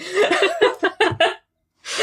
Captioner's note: laughing